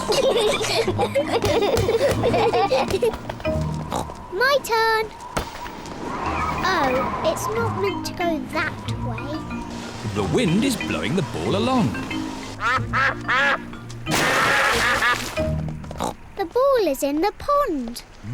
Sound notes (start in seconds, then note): 0.0 giggle; 12.6 ducks quack